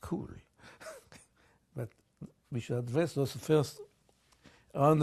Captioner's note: laughs